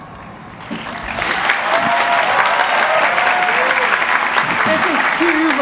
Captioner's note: applause